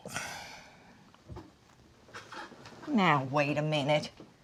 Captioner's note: Dory exhales